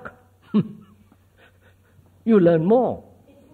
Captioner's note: laughs